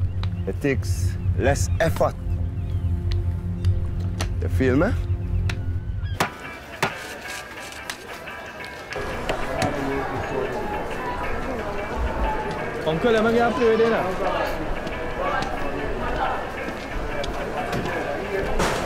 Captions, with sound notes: It takes less effort. Feel me? [IN FOREIGN LANGUAGE] Let me get a lotto ticket.